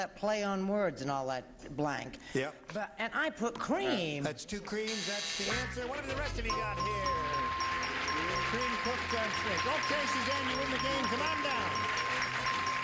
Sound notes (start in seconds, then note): 6.0 buzzer; 6.4 bell dinging